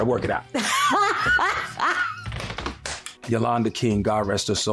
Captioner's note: laughter